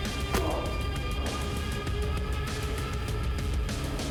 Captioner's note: Igor thudding to floor; mellow upbeat music